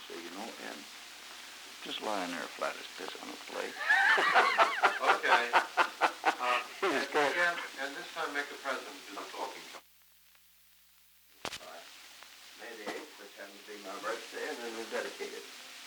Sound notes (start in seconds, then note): 0.1 Murrow, mumbling; 3.7 laughter